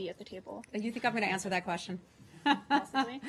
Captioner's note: laughter